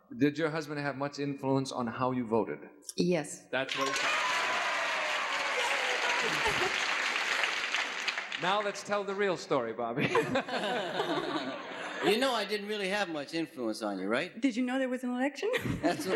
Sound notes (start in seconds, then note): 3.6 audience cheers; 10.0 laughs